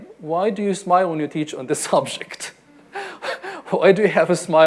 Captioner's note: laughs